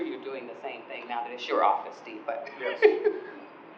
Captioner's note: laughing